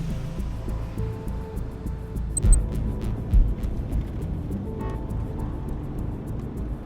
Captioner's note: device beeps